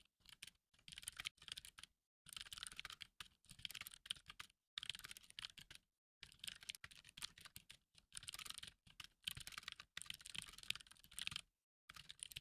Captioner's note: typing sounds